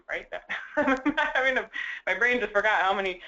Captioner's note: laugh